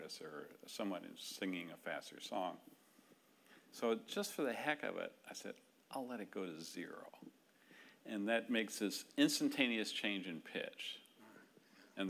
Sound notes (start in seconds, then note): none